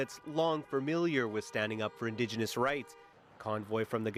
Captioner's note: horns honking